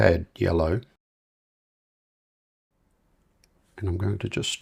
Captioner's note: silence